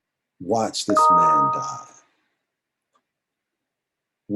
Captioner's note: beep